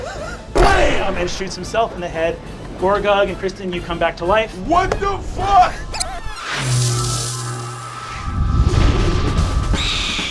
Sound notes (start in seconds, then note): 4.6 ambient electronic music; 5.9 rewinding tape; 9.1 Owlbear screeches; 10.0 intense march music